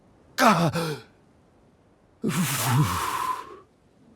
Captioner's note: gasp